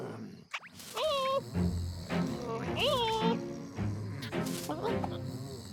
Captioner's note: caterpillar noises